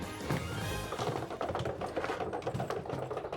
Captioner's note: rolling luggage